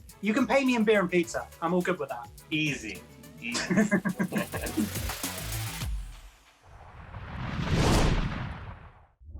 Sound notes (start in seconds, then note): 3.5 laughing; 6.6 logo whooshing